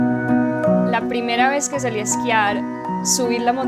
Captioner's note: woman in Spanish